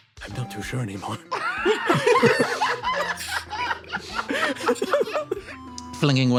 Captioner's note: laughs